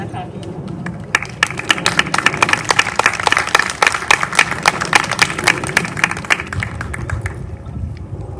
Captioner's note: applause